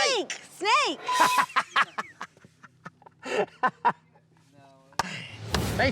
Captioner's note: laughing, clapping